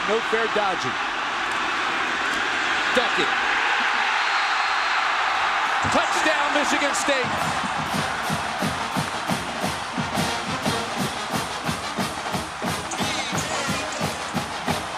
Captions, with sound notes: no fair dodging. Ducking. (crowd reacting to game) Touchdown, Michigan State! (crowd cheering) (celebratory instrumental music)